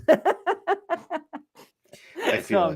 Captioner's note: laughing